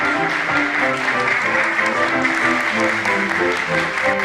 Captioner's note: Aplausos